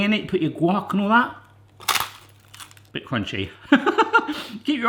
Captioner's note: crunch; laughs